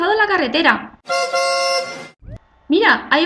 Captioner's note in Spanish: Efecto: clacson de automovil